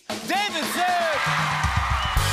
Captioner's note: cheers and applause